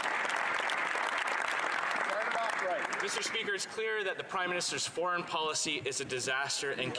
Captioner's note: some Applause